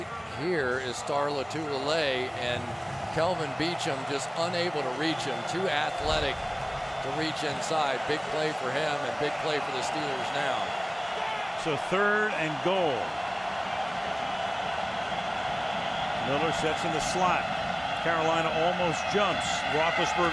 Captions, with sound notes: Right here is Star Lotulelei and Kelvin Beachum just unable to reach him. Too athletic to reach inside. Big play for him and big play for the Steelers now. So third and goal. [cheering] Miller sets in the slot. Carolina almost jumps.